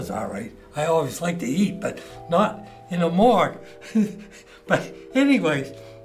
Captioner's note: laughs